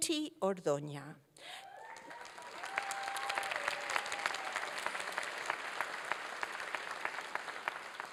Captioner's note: applause